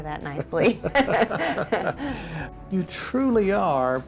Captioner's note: laughs